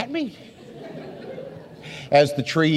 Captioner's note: audience laughs